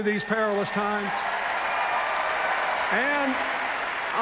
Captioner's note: cheers, applause